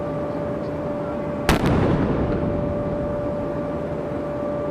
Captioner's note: cannon firing